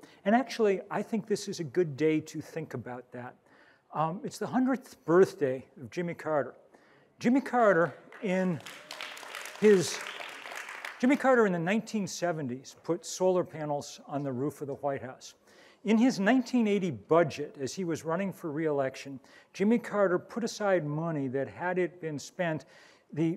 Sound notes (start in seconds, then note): 8.0 audience applauds